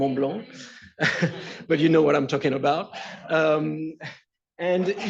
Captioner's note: laughs